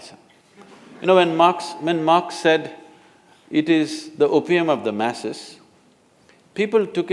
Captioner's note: laughter